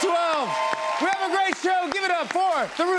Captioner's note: cheers and applause